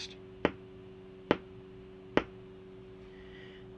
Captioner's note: tapping